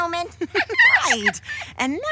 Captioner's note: laughing